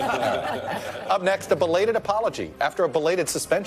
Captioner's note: laughter